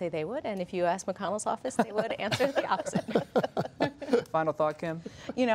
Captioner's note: laughter